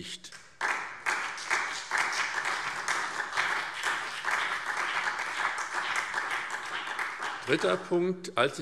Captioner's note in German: Beifall SPD und vereinzelt BÜNDNIS 90/DIE GRÜNEN